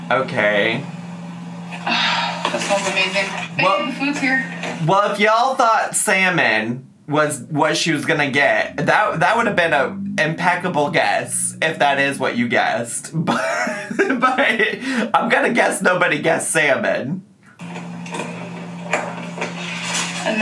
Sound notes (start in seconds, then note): 13.0 laughs